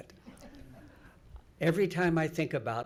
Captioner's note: audience laughs